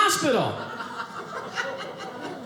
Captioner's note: audience laughing